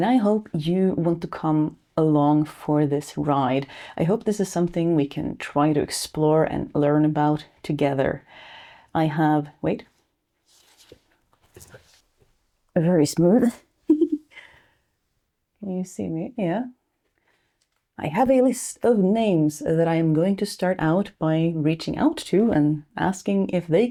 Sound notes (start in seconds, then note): 13.9 laughs